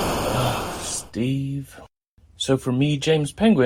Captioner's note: eight-bit-esque explosion noise; sighs